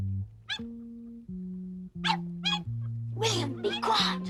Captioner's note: William barks